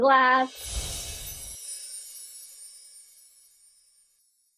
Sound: screen whooshing

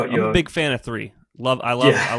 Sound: laughs

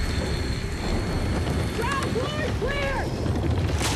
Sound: saw whirring

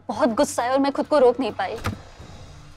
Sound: door opens

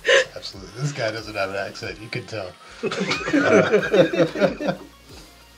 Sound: all laughing

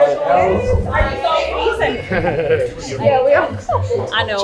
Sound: laughs

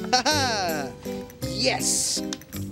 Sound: laughing

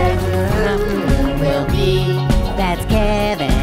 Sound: eating sounds

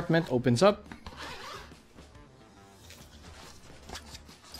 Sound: zipper zips

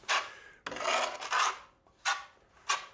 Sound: scraping noises

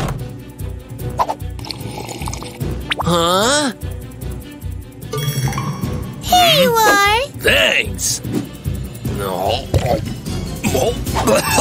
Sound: sounds of choking

